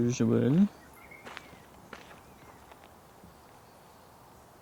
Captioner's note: bird calling